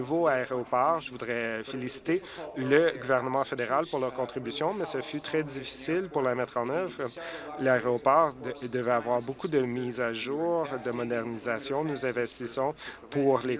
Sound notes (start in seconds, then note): none